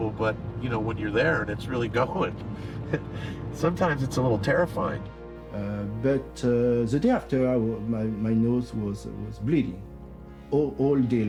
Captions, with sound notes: you know, when you're there, and it's really going. [chuckles] Sometimes, it's a little terrifying. But, the day after, my-my nose was it was bleeding all day long.